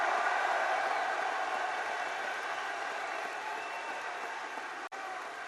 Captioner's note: applause